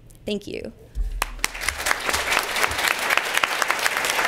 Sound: applause

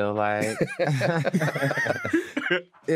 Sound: laughter

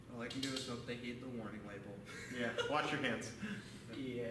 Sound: laughs

